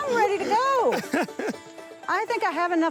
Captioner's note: laughs